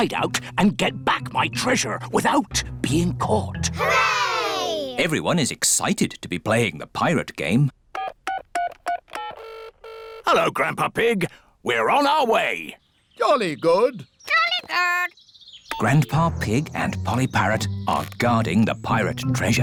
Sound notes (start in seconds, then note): 7.3 dialing phone; 7.3 line ringing